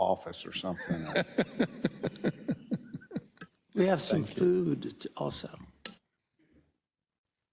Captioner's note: laugh